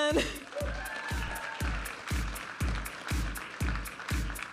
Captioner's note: audience applauding and cheering; upbeat music